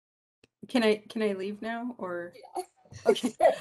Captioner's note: laugh